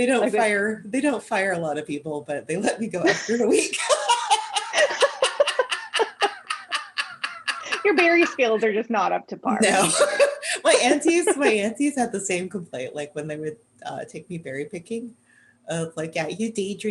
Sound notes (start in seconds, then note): 3.6 laughter